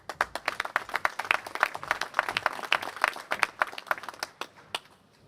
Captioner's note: applause